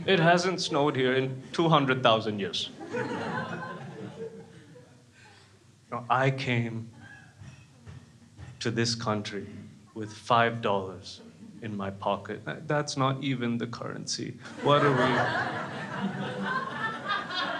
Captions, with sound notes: It hasn't snowed here in 200,000 years. (crowd laughs) I came to this country with $5 in my pocket and that's not even the currency what are we...